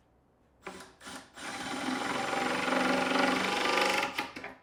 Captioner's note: drill whirring